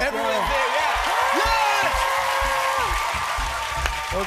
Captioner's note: cheers and applause